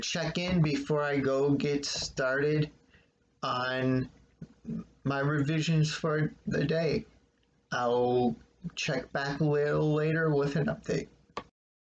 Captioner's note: click